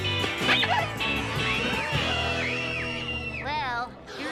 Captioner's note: kids screaming